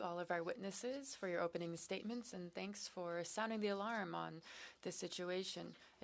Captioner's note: speaking French